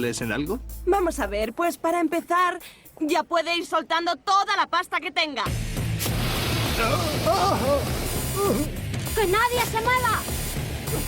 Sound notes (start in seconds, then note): 5.8 whooshing; 7.4 alarms blaring